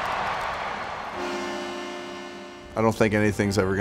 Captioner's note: crowd cheering; buzzer sounds